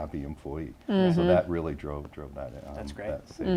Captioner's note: murmurs